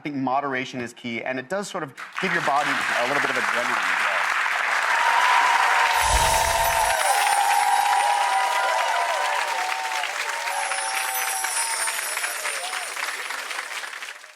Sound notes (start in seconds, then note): 3.8 applause; 6.0 chimes